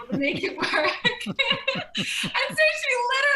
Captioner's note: laughing